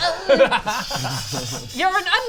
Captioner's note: murder hobo laugh